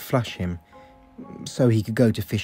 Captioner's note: hesitantly